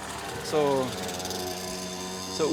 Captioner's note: engine whirring